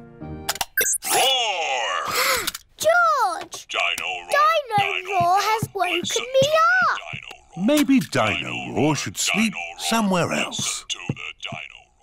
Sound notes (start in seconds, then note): 1.6 gasps